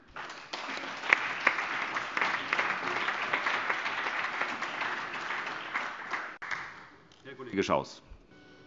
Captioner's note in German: Beifall